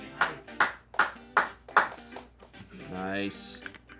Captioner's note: crew applauds